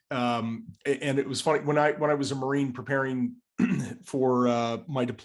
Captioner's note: cough